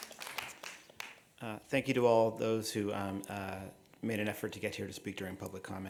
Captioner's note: applause